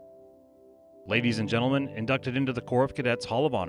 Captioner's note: voiceover